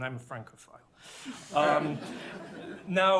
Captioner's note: laughter